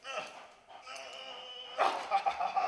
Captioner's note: struggling; laughing